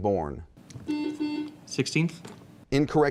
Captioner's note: buzzing